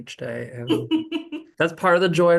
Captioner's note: laughs